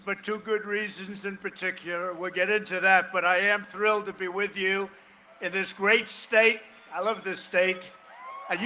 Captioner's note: cheering and applause